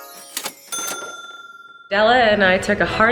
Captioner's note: ding